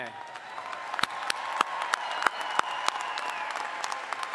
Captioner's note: all applauding